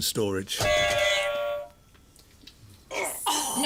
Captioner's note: buzzer